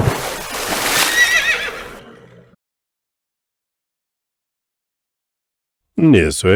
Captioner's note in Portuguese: grito